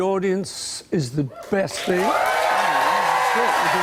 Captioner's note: cheers and applause